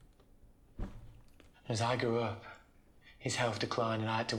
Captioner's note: duffel bag thuds